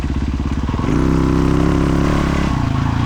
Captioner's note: engine revving